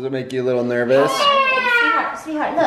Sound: crying

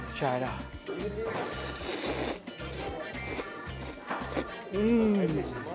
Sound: slurping sounds

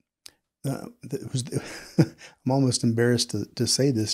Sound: laughs

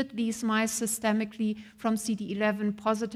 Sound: none

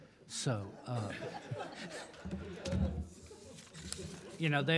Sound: audience laughs

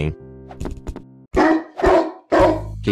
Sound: barking

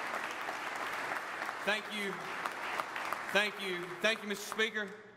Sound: applause

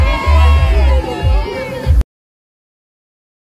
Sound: cheering

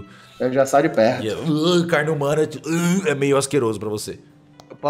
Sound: gags

